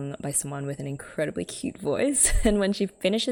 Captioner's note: laughs